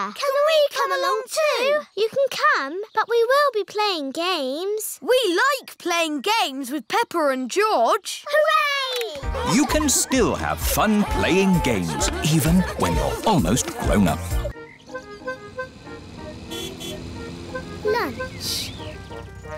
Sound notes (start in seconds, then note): 16.5 horn honks